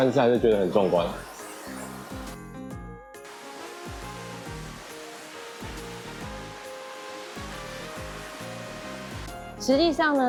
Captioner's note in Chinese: 丰沛的水流声